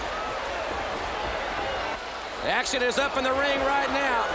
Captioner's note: crowd chatter